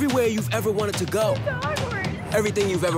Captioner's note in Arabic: تبكي